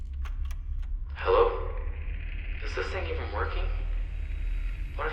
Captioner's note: clicking; recording winds up again